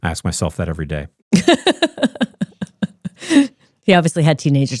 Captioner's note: laughing